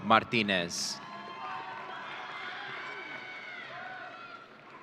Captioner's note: audience cheering